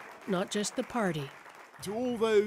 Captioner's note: cheering